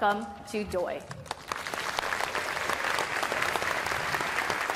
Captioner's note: applause